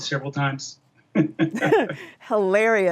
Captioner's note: laughing